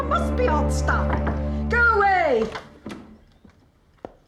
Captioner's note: knocking